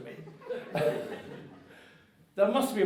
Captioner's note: audience laughing